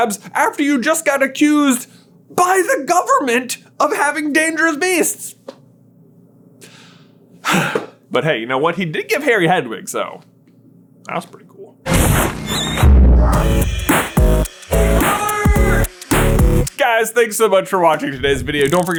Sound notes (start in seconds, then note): 7.4 sigh; 12.0 outro Theme Music